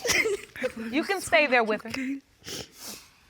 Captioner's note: sobbing continues; sniffles